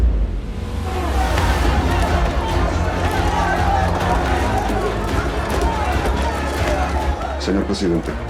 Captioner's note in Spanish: Golpes; Griterío